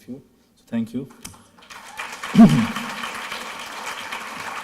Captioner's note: clapping